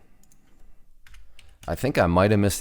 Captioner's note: clicking